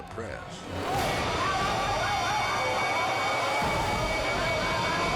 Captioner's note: people screaming